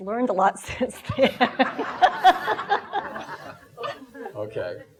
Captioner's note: laughing